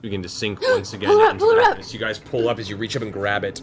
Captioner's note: gasps